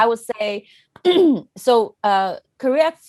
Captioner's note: clears throat